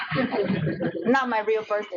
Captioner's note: audience laughs